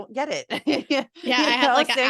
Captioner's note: laugh